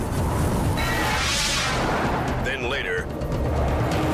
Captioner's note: air whooshes